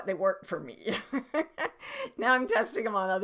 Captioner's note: laughing